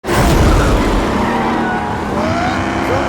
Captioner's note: engine whirs